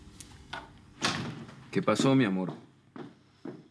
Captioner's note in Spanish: Ruido en la puerta